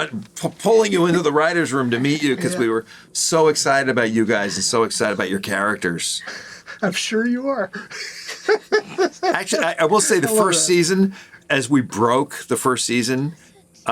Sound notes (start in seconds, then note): 7.6 laughing